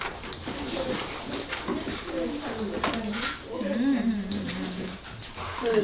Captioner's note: eating